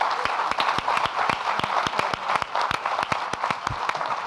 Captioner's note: audience applauding